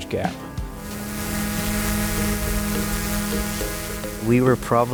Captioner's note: buzzing